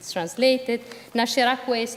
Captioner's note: speaking italian